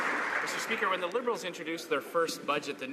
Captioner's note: applause